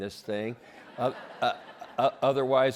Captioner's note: laughter